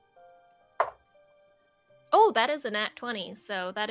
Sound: dice tapping

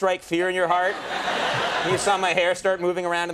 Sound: audience laughing

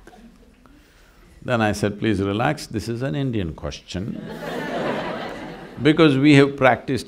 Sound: laughter

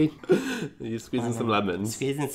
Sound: laughs

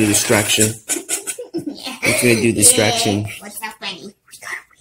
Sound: laughing

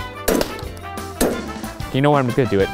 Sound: banging metal

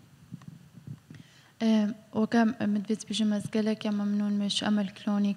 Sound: speaks foreign language

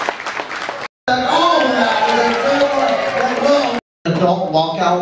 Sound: audience applause drowns out speaker

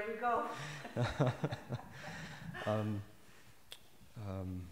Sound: laughter

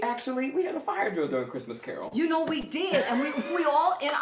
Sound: laughing

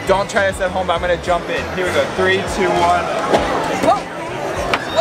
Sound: whips

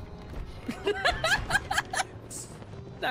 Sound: laughter

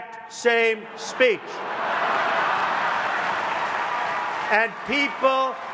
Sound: laughs

